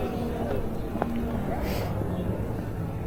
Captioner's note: people chattering